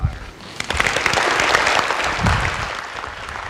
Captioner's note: applause